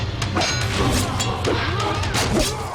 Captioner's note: metal clanging; snick; thud